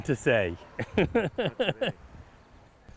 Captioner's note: laughs